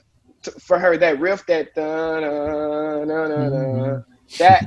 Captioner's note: humming